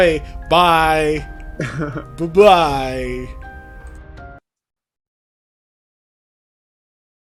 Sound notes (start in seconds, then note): 1.5 laughs